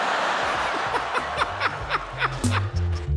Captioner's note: laughs; funky music